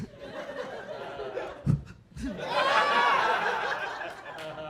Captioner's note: audience laughing